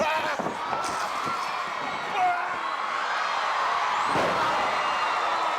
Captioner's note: audience cheering